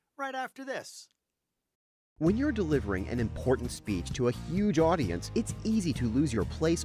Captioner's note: voiceover